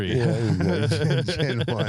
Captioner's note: all laughing